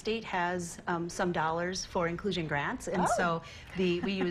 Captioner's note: laughter